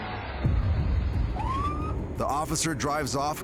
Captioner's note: car engine revs; siren wails